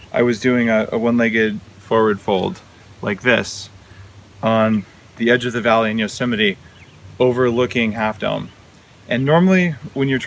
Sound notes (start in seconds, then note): none